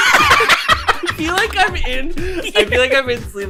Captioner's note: loud laughter; choked up